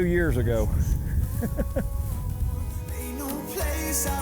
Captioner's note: laughs